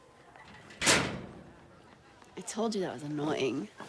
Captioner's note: locker slams